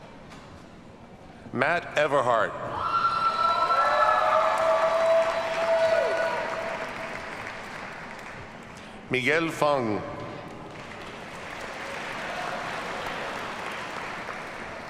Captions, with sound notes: Mat Everhart. (audience cheers and applauds) Miguel Feng. (audience applauds)